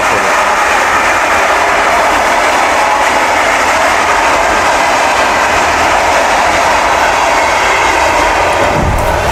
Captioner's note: train noise